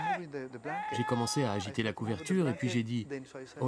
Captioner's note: screams